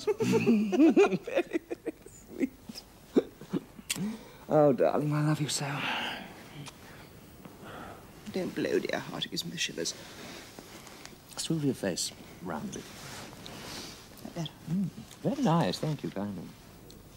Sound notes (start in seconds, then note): 0.0 they laugh; 6.8 sighs